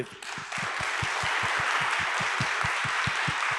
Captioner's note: applause